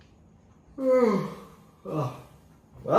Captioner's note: Isaac yawns